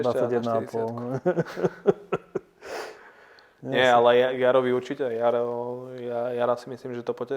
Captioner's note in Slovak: Smiech